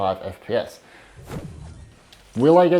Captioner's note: game dings